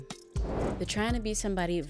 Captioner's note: graphic swooshing